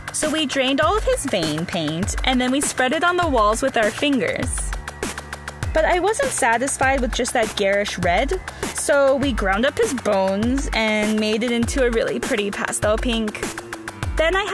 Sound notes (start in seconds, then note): none